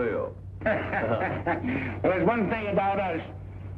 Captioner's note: guffaws